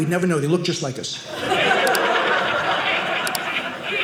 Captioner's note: audience laughing